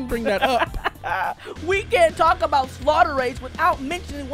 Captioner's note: laughs